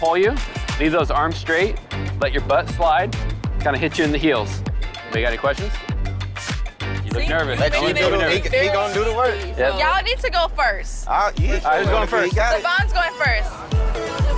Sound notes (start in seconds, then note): 6.9 group chatting